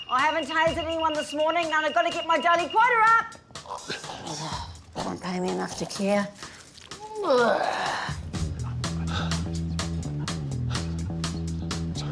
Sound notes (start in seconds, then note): 7.0 grunts; 9.0 sighs